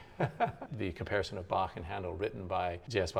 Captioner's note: laughs